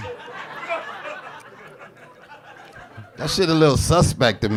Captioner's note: audience laughing